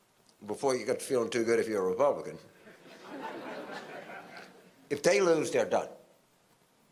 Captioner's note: audience laughter